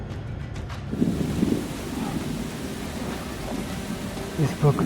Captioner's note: rain pitter-pattering